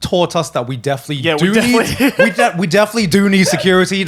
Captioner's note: laughing